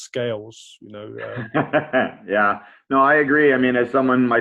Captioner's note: laughs